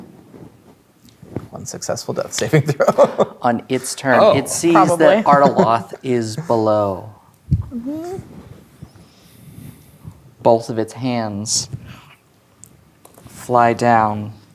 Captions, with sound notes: - One successful death saving throw. (laughs) - On its turn, - Oh. - it sees that Artiloth is below. - Probably. - Mm hm. - Both of its hands fly down.